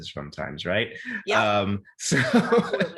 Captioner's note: laughs